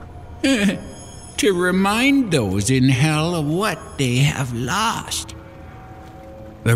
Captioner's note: chuckle